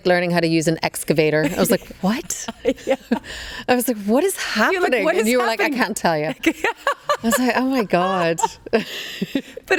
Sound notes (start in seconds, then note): 2.4 Karolina laughs; 6.2 Karolina laughs; 9.1 laughs